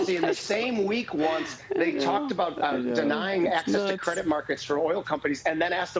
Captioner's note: laughter